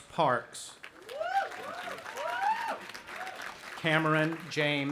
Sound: audience applauding and cheering

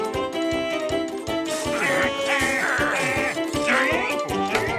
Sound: grunting

